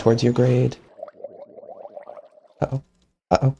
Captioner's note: Mob gurgles